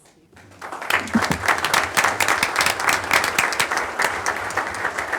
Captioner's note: audience applauding